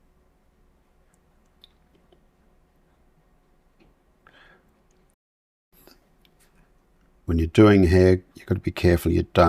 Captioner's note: silence